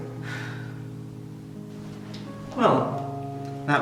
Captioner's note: sigh